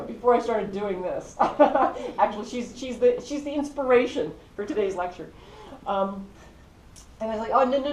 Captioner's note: laugh